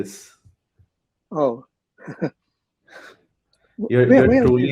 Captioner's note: chuckles